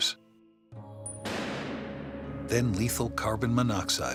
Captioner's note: door slamming shut